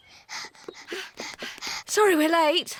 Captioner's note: panting